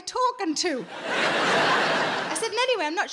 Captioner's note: audience laughing